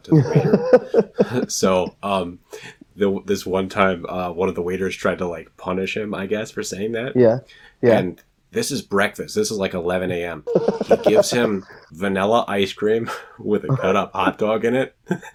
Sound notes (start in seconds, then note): 10.4 laughs